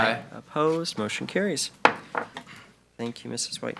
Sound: gavel taps

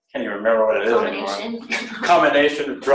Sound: laughs

